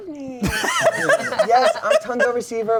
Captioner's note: laughs